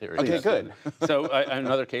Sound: laughter

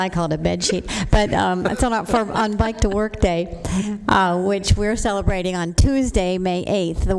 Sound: laughter

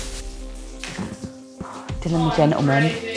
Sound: sighs

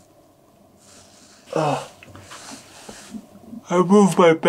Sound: exhales

